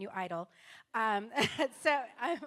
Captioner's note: laughter